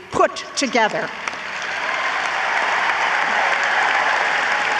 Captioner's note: audience applauds